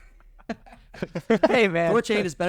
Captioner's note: laughing